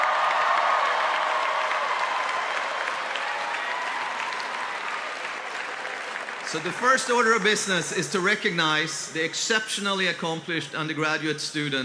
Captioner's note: cheers and applause